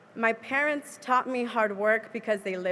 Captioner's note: none